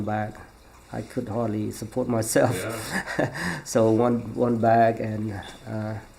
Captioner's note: laughs